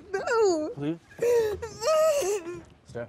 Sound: crying

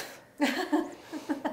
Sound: laughing; chuckling

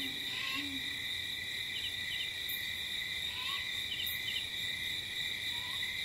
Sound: crickets chirping

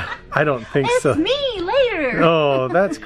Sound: laughs

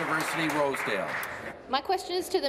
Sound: applause

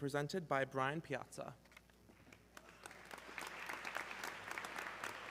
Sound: audience clapping

